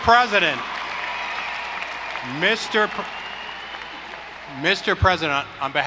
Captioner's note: audience applauding; audience cheering